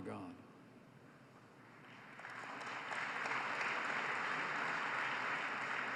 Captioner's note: applause